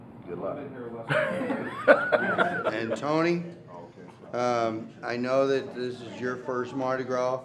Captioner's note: laughter